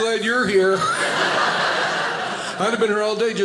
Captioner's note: audience laughing